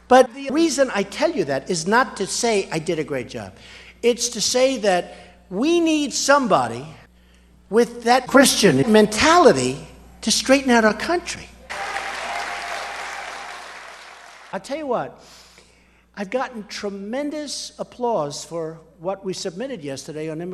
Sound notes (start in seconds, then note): 11.7 applause